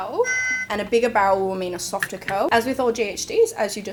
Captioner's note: beep